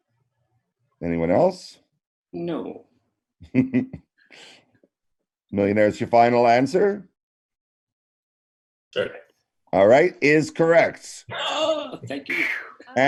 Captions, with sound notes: - Anyone else? - No. (chuckles) - "The Millionairess" your final answer? - Sure is. - All right, is correct. - Oh, thank you.